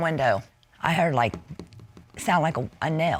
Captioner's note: taps